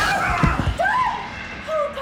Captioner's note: screams